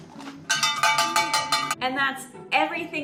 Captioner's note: crunch; clanging